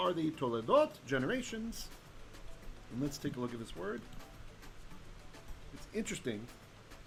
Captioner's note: Hebrew